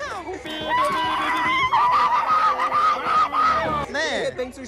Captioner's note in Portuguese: gritos